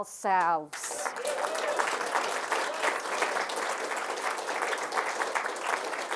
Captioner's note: applause